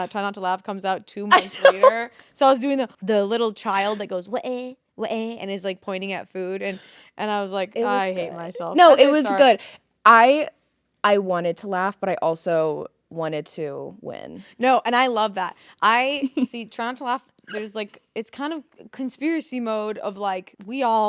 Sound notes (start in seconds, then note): 1.3 laughing; 5.1 exclaims